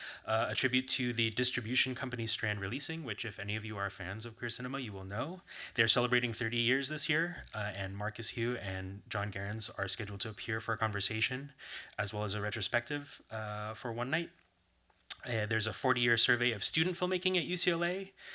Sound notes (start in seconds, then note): none